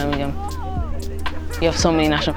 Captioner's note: hikers chatting